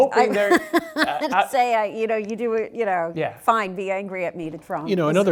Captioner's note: laugh